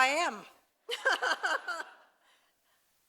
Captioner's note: laughter